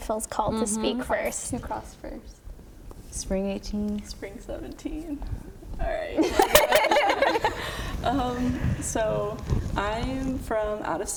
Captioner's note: laughter